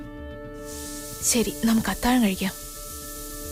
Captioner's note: Cooker whistle blows